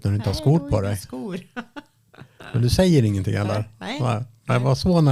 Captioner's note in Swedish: skratt